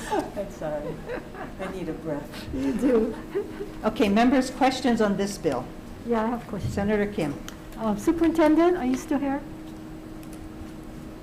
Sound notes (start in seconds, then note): 0.0 Senators laughing